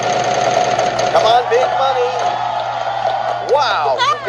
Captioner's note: pat